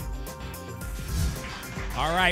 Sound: whoosh

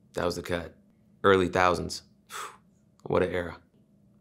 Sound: sighs

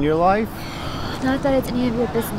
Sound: emma sighs

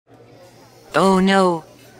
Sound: low character & ambient cafe sounds

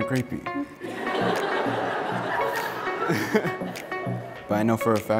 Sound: audience laughs; laughs

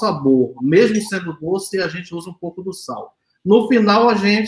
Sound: speaks portuguese

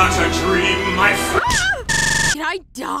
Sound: Luz shrieks

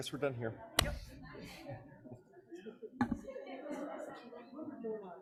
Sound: people chattering

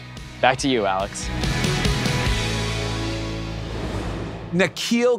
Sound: transition whooshes

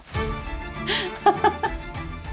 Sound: laughing

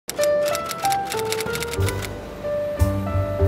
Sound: type writer; piano music

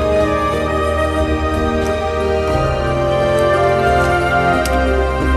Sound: sound of footsteps

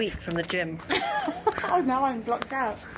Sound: laughs

